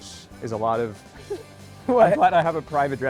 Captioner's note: chuckling